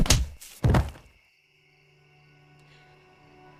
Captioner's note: body slams